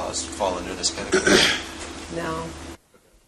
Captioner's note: cough